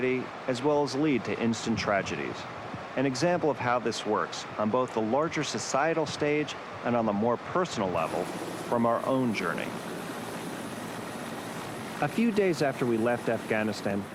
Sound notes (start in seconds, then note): 9.7 helicopter rumbling